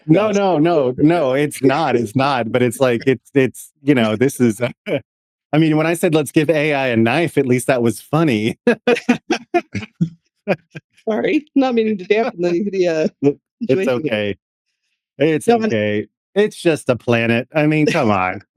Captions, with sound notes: No, no, no, no, it's not, it's not, but it's like, it's, you know, this is, I mean, when I said let's give AI a knife, at least that was funny. (Laughing) Sorry, not meaning to dampen the situation. It's okay. It's okay. It's just a planet. I mean, come on.